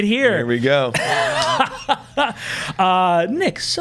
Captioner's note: laughs